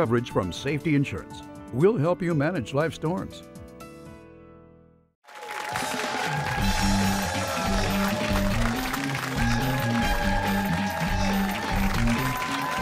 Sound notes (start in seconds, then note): 5.2 cheering